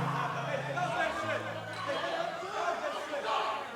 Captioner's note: crowd shouting